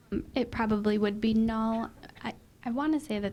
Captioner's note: voiceover